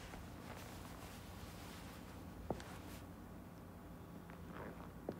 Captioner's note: footsteps tapping